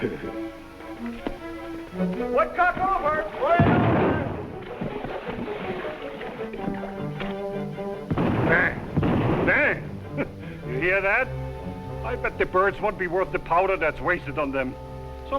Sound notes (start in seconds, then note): 0.0 Piggy chuckles; 3.6 gunshot firing